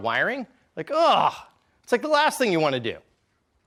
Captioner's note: groans